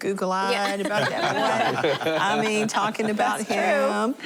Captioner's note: laughter